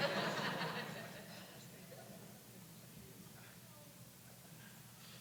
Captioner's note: laughter